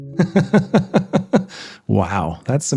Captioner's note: laughs